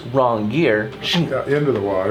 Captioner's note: imitates suction sound